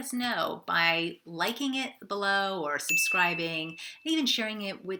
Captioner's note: bell dinging